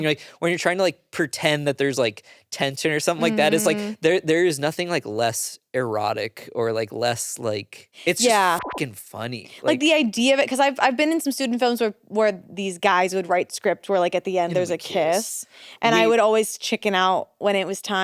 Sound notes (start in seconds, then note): 8.2 beep